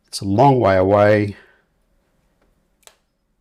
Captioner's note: silence